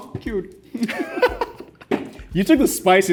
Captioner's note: both laughing